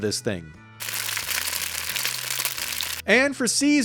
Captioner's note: egg sizzling